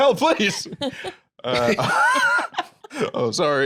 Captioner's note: all laugh